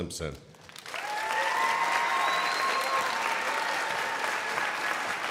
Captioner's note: crowd applauding